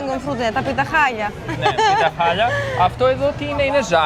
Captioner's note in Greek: γέλια